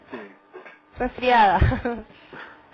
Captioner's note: laughter